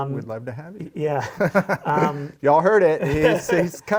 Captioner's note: laughter